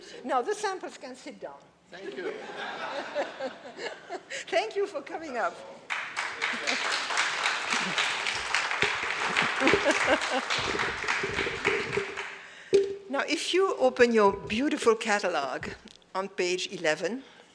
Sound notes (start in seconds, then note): 2.0 audience laughs; 5.8 audience applauds; 9.8 laughs